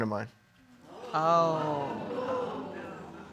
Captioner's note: audience gasps